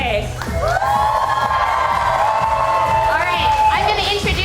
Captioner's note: cheering